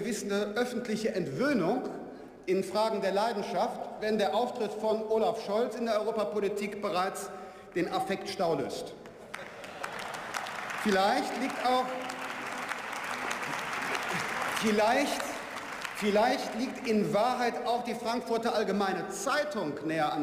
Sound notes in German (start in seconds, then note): 9.5 Beifall